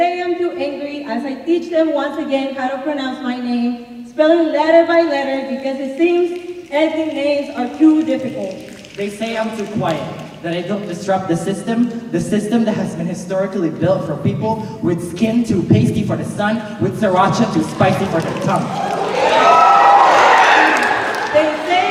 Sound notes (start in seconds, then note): 9.0 snapping; 19.0 cheers and applause